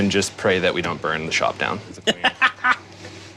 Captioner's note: laughs